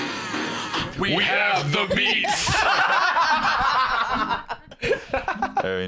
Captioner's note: all laughing